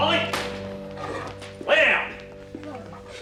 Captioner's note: dog whimpering